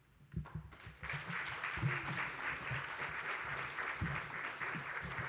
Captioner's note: audience applauds